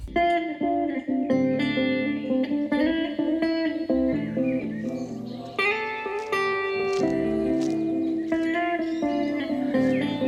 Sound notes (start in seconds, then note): 0.2 mellow guitar music; 3.4 birds twitter